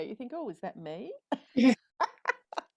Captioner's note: both laugh